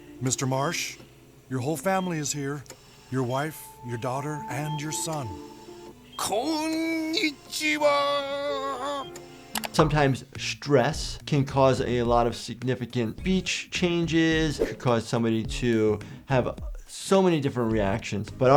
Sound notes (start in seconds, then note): 6.2 Randy speaking Japanese